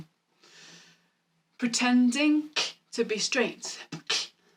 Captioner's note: beatboxing